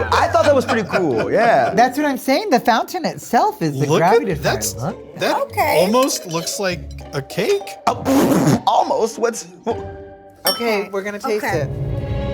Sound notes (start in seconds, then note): 8.5 laughs